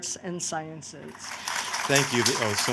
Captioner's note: applause